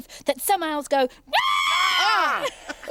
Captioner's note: Tula screeching; Iver and Groove yelling; Tula laughs